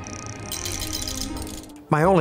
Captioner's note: mechanism rattling